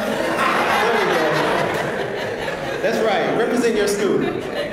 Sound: laugh

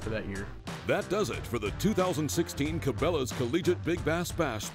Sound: voiceover

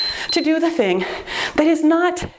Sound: timer beeps

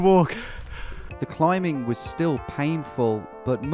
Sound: voiceover

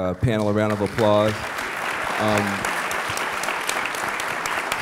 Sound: applause

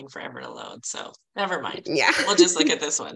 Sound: chuckling

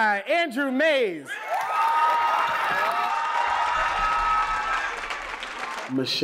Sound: applause

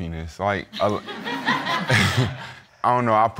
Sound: audience laughing

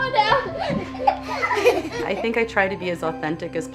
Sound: laughter

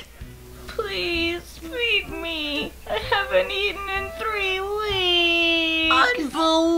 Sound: whining

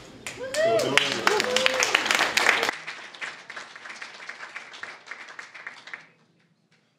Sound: applause, cheering

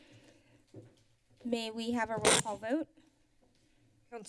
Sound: feedback sound

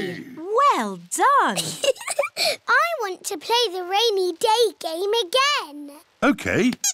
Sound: laughs

